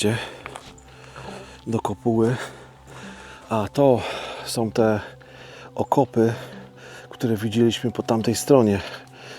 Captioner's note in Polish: parsknięcie